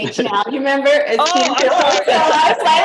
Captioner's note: laughter